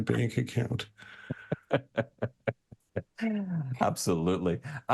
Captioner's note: laughs